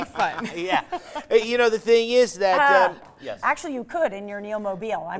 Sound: laughter

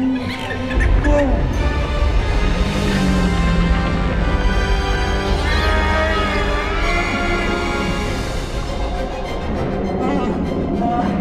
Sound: wookiee call

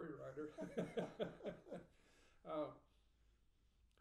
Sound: laughing

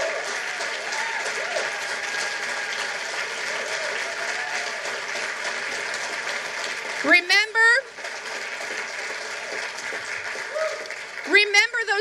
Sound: applause

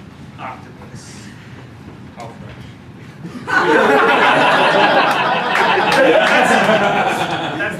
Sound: laughter

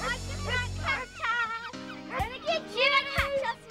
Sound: barking

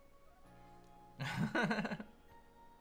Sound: soft chuckle

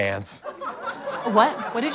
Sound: audience laughter

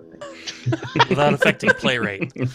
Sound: laughter

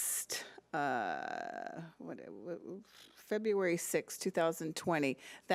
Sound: stammering

